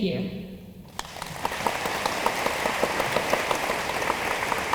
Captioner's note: room applauds